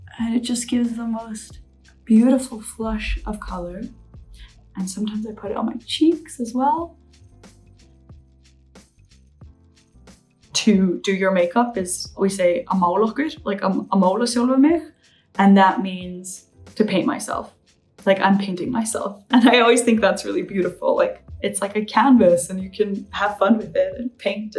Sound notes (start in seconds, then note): 0.0 gentle upbeat music; 7.0 gentle upbeat music; 12.2 speaks Icelandic